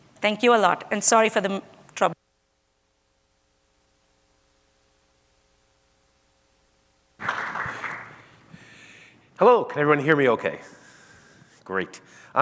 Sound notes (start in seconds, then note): 7.2 audience claps